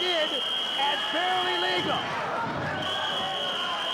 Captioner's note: whistling